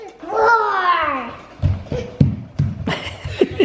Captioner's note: roaring; laughing